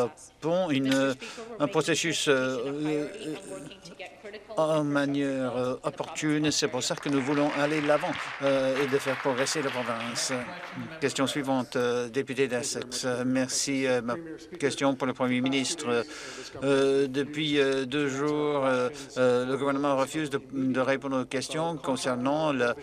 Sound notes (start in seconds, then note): 10.2 applause